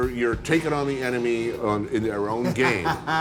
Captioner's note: laughs